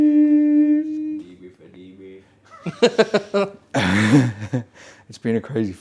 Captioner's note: man laughing